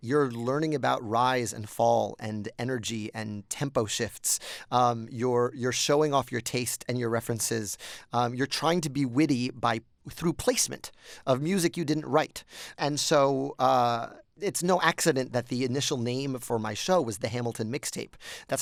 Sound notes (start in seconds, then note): none